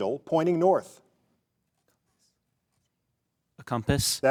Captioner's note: contestant whispering